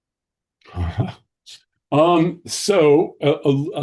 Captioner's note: chuckling